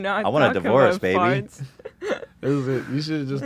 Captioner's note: laughs